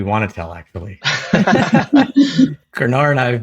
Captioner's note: laugh